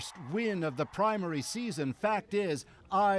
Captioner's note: cheers and Applause